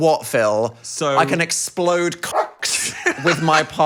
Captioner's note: dog barks